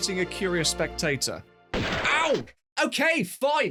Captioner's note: gunshot